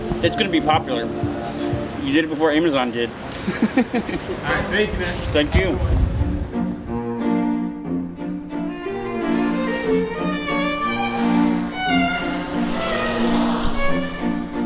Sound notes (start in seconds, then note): 3.4 videographer laughs; 5.6 gentle orchestral music